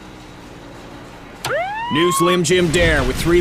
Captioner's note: siren wailing